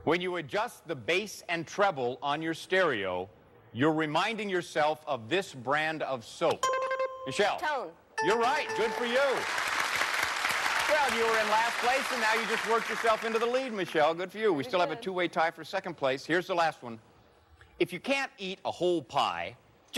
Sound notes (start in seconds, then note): 6.5 buzzer rings; 8.2 bell rings